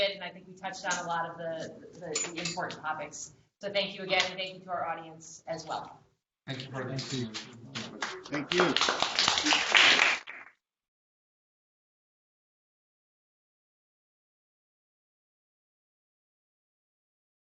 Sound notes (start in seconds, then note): 7.7 applause